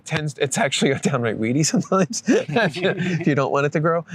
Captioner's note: laughter